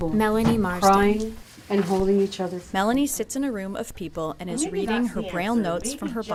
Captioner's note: voice fade